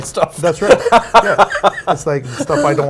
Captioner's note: laughs